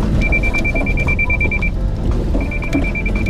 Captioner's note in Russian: звучит предупреждающий сигнал